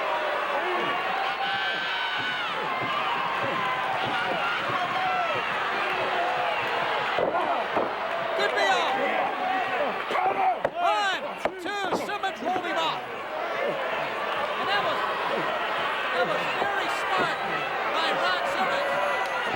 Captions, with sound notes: (audience cheering) Should be all. Count him! One, two! Simmons rolled him off, and that was very smart by Ron Simmons.